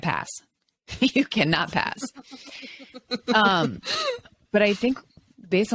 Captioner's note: laughs